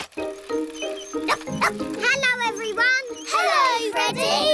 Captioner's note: barks